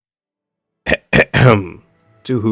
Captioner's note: ahem